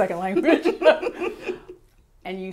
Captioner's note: laughter